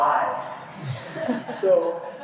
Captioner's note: laughter